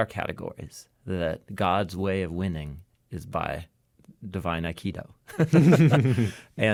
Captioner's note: laughs